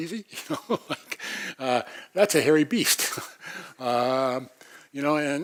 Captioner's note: laugh